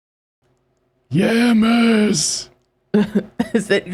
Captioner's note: old man voice